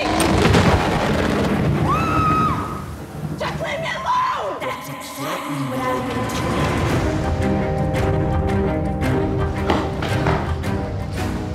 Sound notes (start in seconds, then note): 0.1 dramatic sting; 1.8 screams